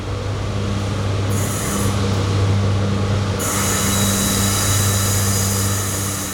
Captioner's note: sound of train departing